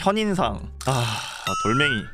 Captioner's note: sigh